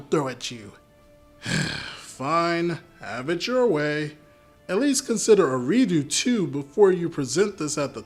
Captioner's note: sigh